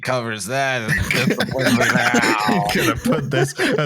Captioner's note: laughter; mutters; laughter